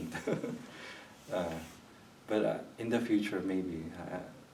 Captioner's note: chuckles